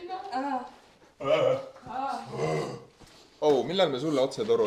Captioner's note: singing; animal noises